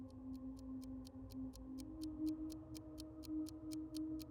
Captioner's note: ticking